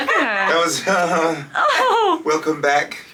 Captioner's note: everyone laughing; laughs